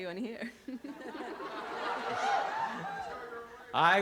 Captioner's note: laughter